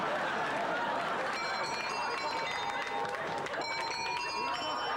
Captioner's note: doorbell plays